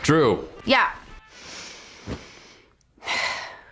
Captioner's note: sighs